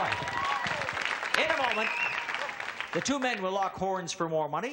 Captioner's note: audience claps and cheers